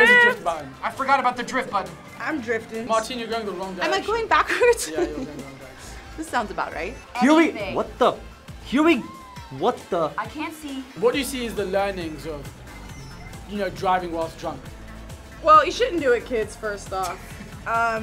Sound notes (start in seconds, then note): 4.3 laughs